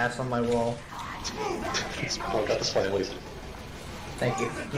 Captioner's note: pfft